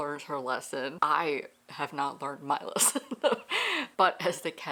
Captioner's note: laughs